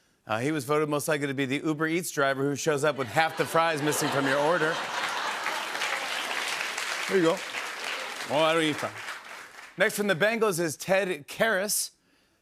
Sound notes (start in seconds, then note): 4.8 laughter; 5.8 applause